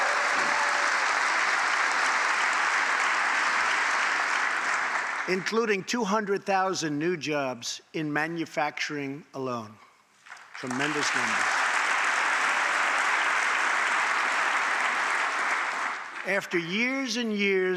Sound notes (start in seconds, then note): 0.0 applause; 14.7 applause